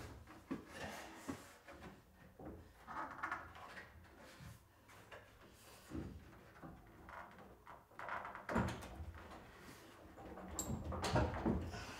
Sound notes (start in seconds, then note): none